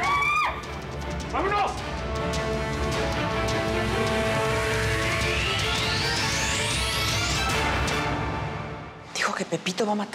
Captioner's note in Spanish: gritos